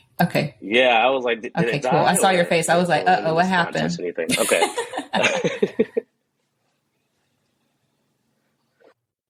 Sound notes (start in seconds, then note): 4.3 background laughter